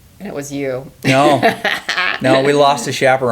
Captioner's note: laughs